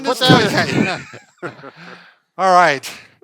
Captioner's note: both laughing